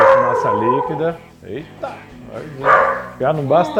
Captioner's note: barks